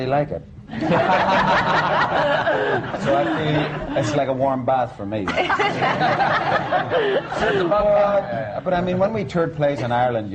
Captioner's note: laughter